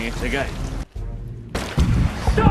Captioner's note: cannonball striking wood